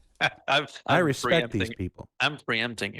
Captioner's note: laughing